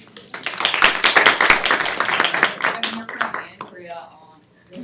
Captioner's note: students clapping